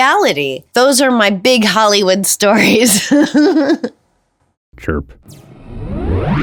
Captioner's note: giggles